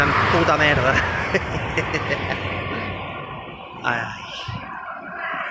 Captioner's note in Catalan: Riu